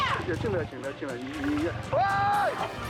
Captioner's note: someone speaking in a foreign language; screaming